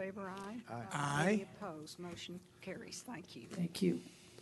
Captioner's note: chorus of ayes